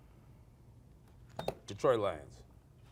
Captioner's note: beep